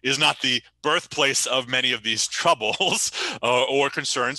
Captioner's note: chuckles